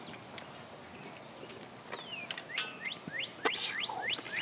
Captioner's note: birds chirping